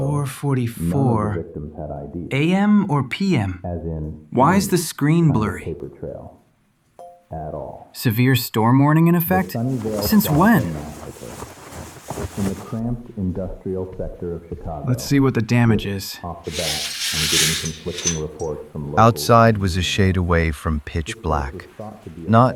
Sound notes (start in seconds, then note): 12.4 SFX: Blankets rustling, footsteps; 16.5 more steps, curtains yanked open